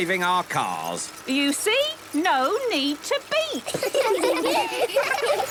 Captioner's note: laughter